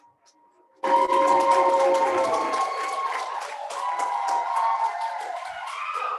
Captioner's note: applause